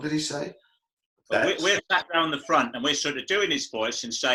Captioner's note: As Michael Caine